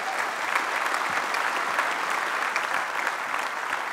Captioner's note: applause